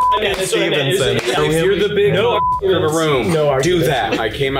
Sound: beeps

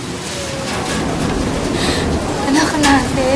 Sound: wind softly howling

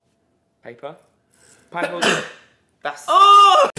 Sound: sneezes

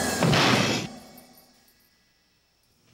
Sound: crashing

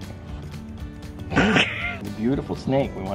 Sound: laughs

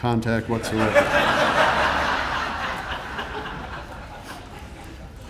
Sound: audience laughing

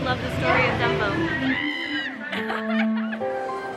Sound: screeches

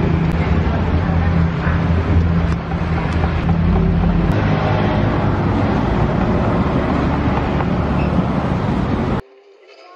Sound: engine sound

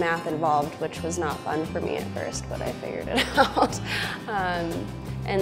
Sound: laughing

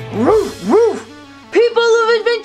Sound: loud barking

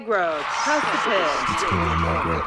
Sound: voiceover; audience cheers

